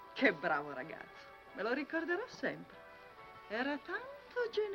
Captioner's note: speaking foreign language